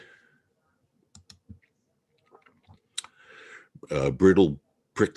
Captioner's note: mouse clicking